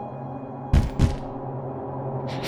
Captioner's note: Dryconiac feet landing on floor